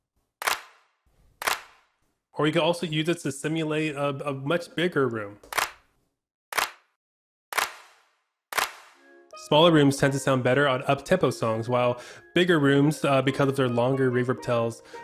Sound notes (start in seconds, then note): 1.4 echoing hands clapping; 5.5 hands clapping; 8.6 longer echoing of hands clapping